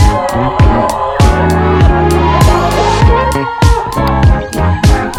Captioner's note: cheering continues